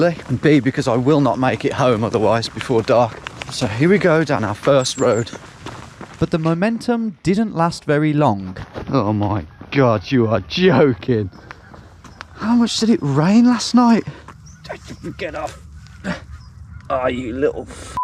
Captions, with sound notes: And B, because I will not make it home otherwise before dark. So here we go, down our first road, but the momentum didn't last very long. Oh my God, you are joking. How much did it rain last night? (exclaims) Get off. Aw, you little (beep).